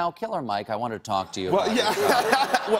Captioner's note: laughter